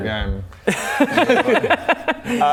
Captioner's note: inconvenient laughs